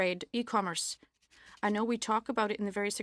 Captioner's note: speaking French